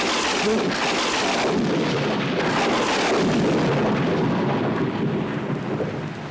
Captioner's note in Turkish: gök gürültüsü